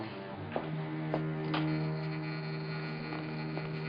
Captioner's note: door buzzing